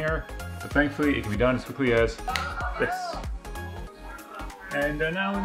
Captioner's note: snap